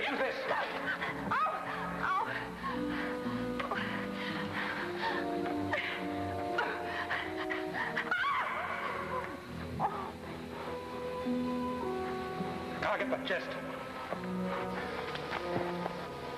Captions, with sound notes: - Here, use this. - Oh, oh. (gasping) (Joan screams) - I'll get the chest.